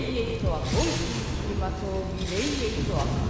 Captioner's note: chanting